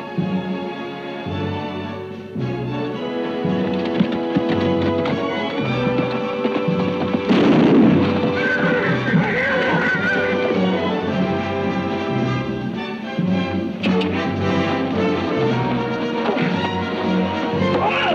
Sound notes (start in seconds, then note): 6.9 gun bangs; 8.4 horse whinnies; 10.6 exciting music